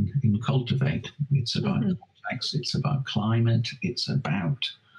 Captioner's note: audio skips